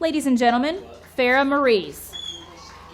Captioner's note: audience clapping